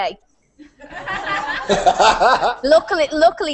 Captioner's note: risas